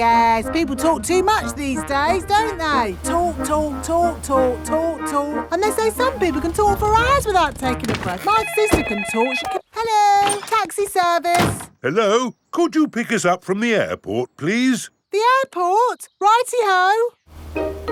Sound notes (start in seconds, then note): 8.2 cellphone ringing